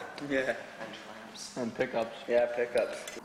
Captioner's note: voiceover